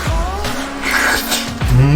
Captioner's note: slurp